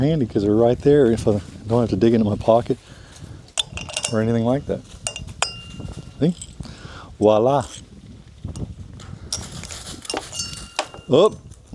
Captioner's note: washers drop